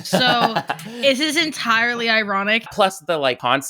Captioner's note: laughs